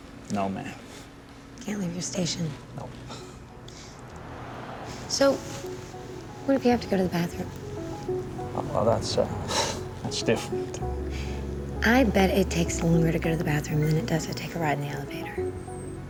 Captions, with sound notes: No, ma'am. Can't leave your station? Nope. So, what if you have to go to the bathroom? Well, that's... (CHUCKLES) That's different. I bet it takes longer to go to the bathroom than it does to take a ride in the elevator.